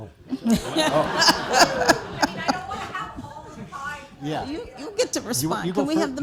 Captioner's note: laughter